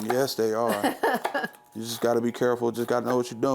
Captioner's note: person laughing